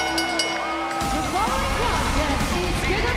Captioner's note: bell